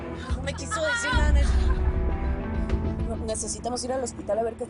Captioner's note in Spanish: Quejidos